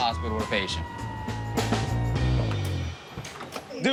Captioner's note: siren wailing